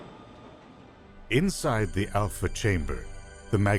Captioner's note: voiceover